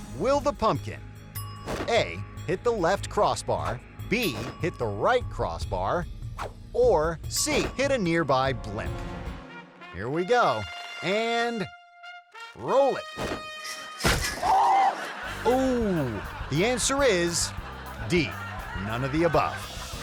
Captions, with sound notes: Will the pumpkin A, hit the left crossbar, B, hit the right crossbar, or C, hit a nearby blimp? Here we go, and roll it. (man yelling) Ooh, the answer is D, none of the above.